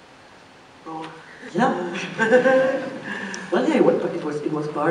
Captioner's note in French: laughs